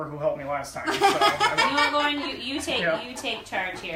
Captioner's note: laughs